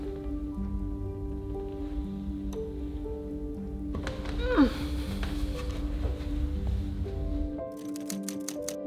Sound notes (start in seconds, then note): 4.0 groans